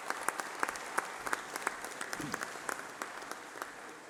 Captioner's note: applause